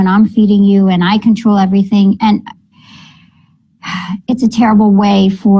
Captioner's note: sighing